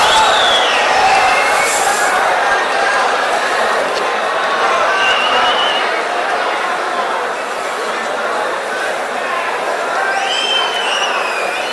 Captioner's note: wild applause and cheering for 22 seconds